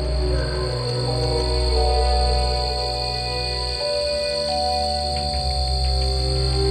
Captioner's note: wolf howling; insects singing; suspenseful music